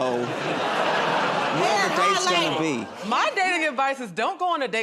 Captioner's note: laughter